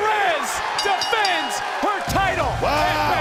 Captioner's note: bell rings